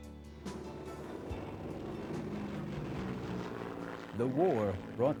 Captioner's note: airplane engine